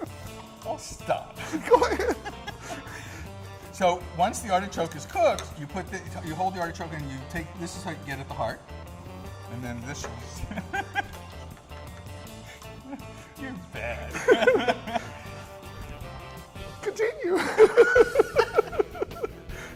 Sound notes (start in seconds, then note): 10.3 giggles